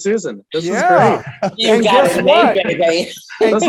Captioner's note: group laughter